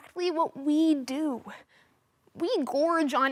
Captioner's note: soft breathing